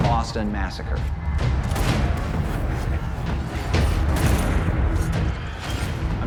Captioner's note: yelling; gunfire, knives stabbing